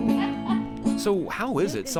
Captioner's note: guitarist laughs